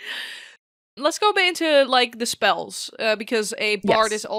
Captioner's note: laughs